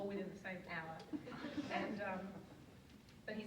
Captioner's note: audience laughs